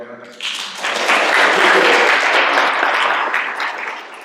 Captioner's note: applause